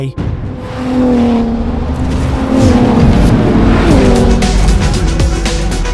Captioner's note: engine revving; thunder rumbles; upbeat electronic music